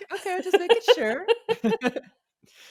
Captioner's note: chuckles